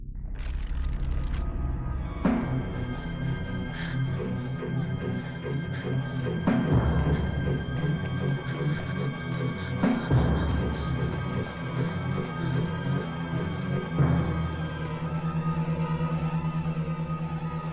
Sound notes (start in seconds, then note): 0.1 stone crunching; 0.2 suspenseful music; 2.9 Julie panting heavily; 2.9 frenzied music